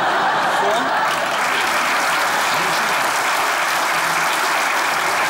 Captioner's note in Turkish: Alkış sesleri